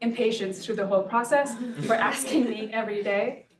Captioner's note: audience laughs